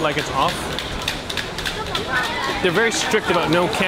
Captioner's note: toy clacking